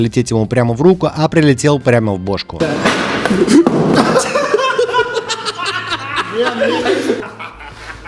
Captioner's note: laughter